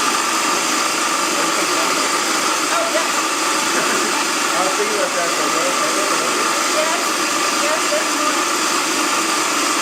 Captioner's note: loud food processor noise